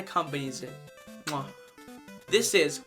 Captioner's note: chef’s kiss